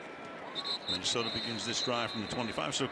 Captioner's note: whistle